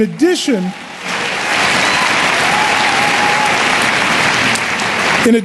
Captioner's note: cheering and Applause